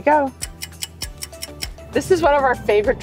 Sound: stopwatch ticking

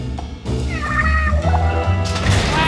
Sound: Sad Inkling noises

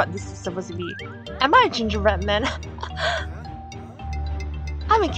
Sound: laughing

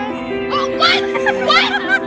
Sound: yelling

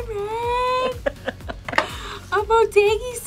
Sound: laughs

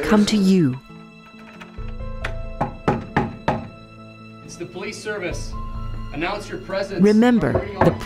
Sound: knocking at the door

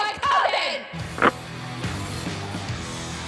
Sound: upbeat rock music; receiver clicks

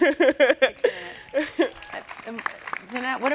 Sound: laughs; applause

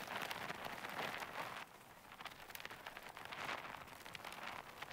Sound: wind whirling

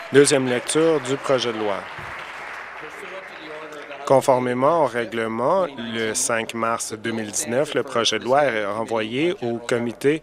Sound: applause

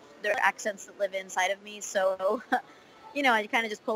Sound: laughs

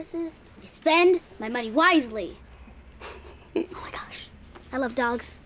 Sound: whispers

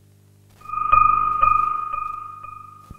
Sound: creepy noise

